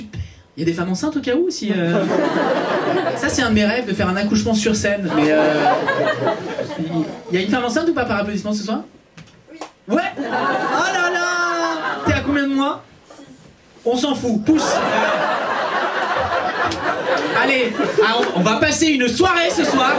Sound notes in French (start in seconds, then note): 1.8 rires public; 14.6 rires public